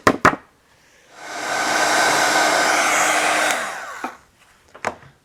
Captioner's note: machine whirring